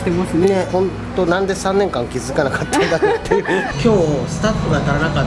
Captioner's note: laughs